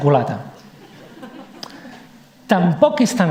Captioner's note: laughs